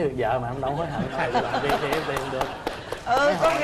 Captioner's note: laughing; applause